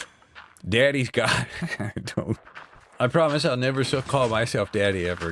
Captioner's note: laughs weakly